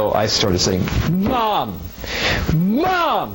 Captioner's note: tennis racket thumps pillow